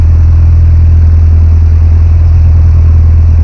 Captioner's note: none